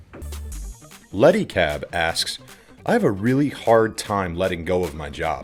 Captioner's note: voiceover